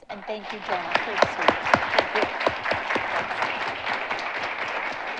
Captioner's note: audience applauding